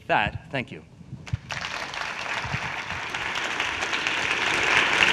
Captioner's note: audience applauding